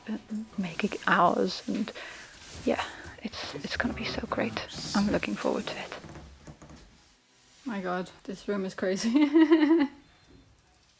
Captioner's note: laughs